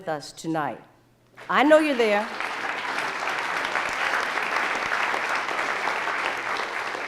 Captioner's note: audience applauding